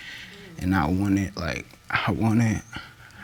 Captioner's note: voice breaks